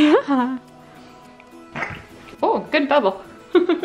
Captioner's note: baby spits up